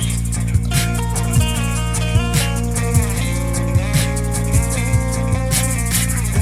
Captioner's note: humming